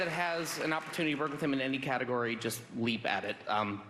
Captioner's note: applause